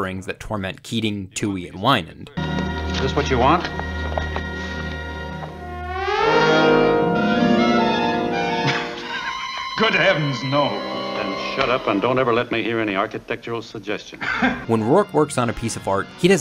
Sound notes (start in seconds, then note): 8.6 Wynand laughs